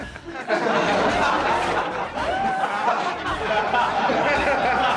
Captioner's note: people laughing